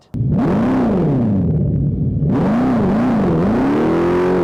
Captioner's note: Fratzonic roars